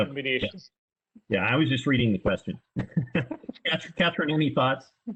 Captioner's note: laughs